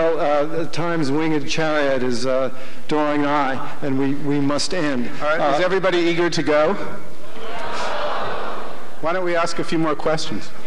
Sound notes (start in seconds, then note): 7.7 shouting